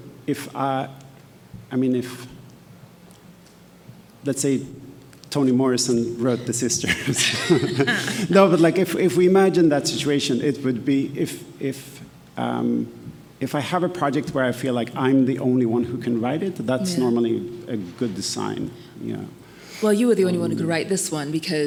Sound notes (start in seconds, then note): 6.2 panelists laughing; 6.3 laughs